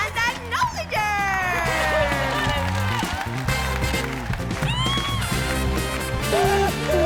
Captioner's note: cheering & applauding; sobbing